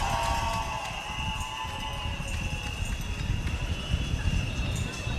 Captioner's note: cheering